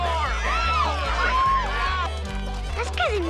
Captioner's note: crowd yelling